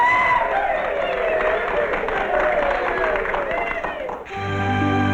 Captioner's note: sailors cheering